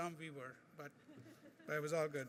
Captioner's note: laughing